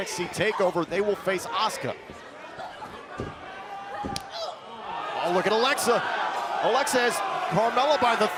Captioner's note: crowd cheering